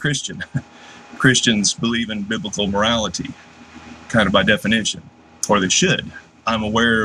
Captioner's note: laugh